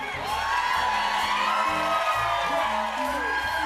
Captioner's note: cheers and applause